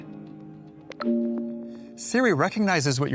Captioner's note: siri chimes